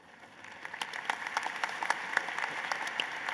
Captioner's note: applause